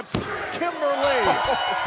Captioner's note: bell ringing